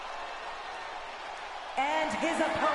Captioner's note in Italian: Applauso